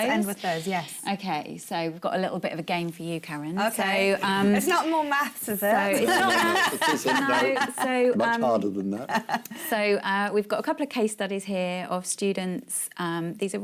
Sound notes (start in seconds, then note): 6.0 laughs